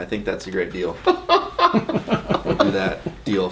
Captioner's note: laughing